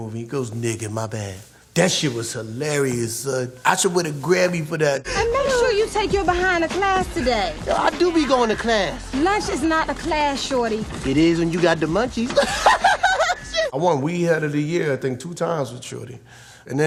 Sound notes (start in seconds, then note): 12.3 laughs hysterically